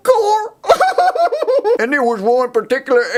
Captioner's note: laughs